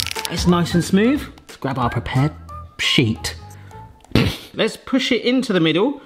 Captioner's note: chuckles